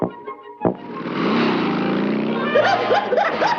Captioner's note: rock accelerating; Daffy whooping